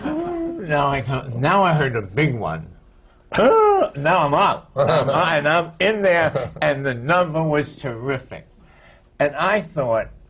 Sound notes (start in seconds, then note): 0.2 laughter; 6.2 laughter